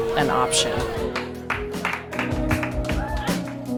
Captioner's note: clapping